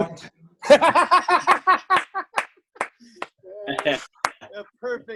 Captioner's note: laughter